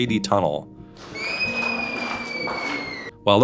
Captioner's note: child screaming